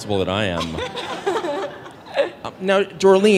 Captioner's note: laughing